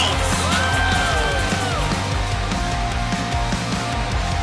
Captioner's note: cheering